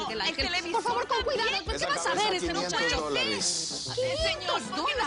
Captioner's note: Hablan al unísono